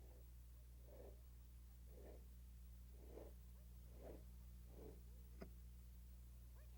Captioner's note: scooting sound